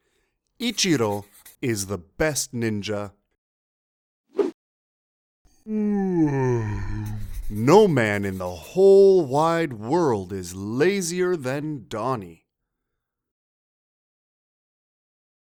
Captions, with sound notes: Ichiro is the best ninja [yawn] No man in the whole wide world is lazier than Donny